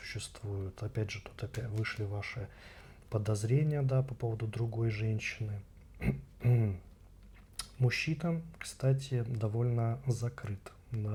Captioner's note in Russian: откашливается